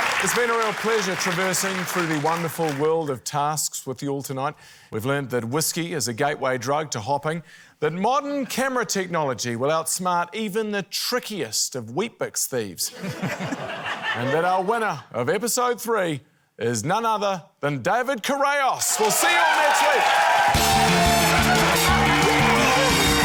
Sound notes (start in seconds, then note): 12.9 laughter; 21.4 cheering, applause